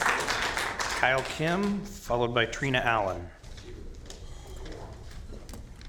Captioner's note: applause